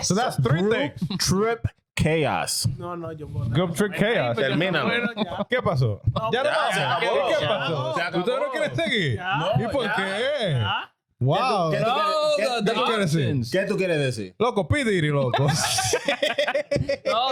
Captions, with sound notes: Guess the three things. That's three things, trip chaos. (Speaking In Foreign Language) (Laughing)